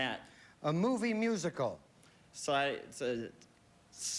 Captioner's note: stutters